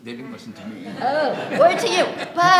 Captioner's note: audience laughs